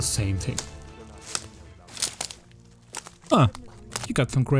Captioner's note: ingame walking sounds